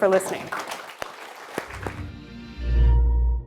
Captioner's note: audience applauding; gentle music